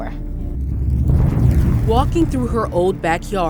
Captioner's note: fire crackling